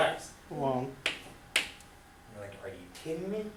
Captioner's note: voiceover